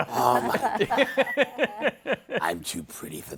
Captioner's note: laughter